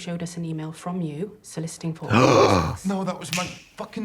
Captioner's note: Katya gasps